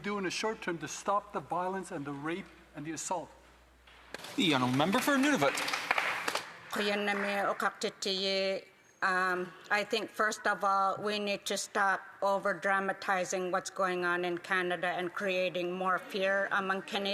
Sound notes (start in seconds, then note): 15.0 speaking native language